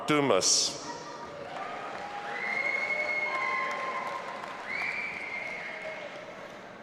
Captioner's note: audience applauding and cheering